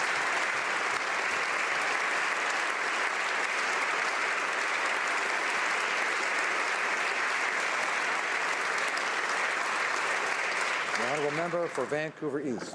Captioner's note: applause